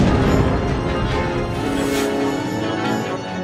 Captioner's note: thunder